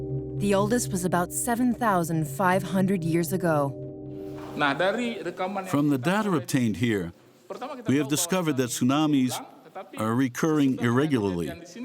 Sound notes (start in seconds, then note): 4.8 speaking in foreign language